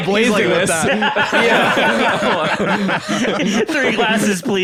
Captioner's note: all laughing